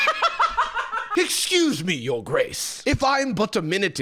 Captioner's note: cackles; British accent